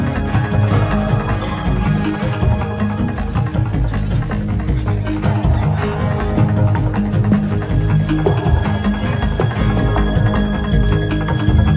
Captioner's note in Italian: Applauso